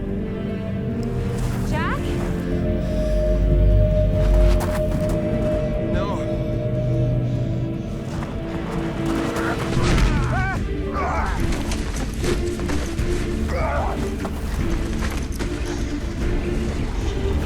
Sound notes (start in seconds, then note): 3.1 eye humming; 10.2 both grunting; 11.5 dramatic music